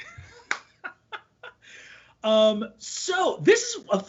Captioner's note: laughing